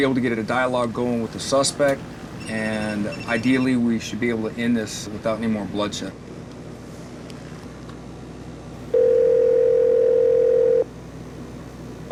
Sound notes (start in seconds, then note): 8.9 phone ringing over speakers